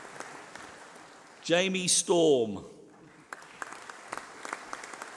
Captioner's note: applause